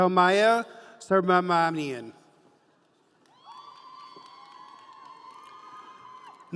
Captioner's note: audience cheering